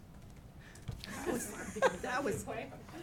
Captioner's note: laughing